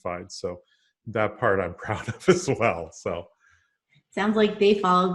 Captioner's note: laughs